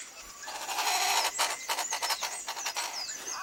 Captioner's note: croaking